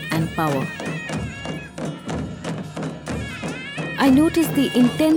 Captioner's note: soft drumming; reed pipe music; metal clanking